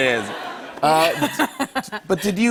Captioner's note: laughs